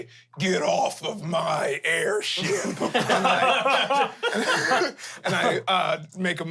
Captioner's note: everyone laughs